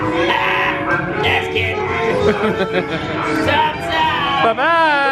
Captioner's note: laughs